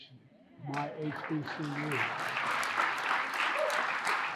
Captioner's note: crowd applauding